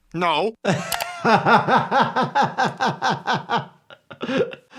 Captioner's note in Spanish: riendo